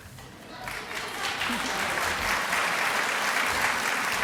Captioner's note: applause